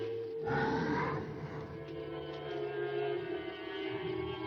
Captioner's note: branches rustling; growling